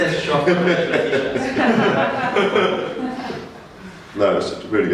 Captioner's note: audience laughing